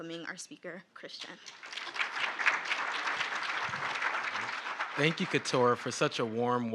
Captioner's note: audience applauding